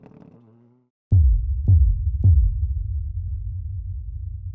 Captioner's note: logo booming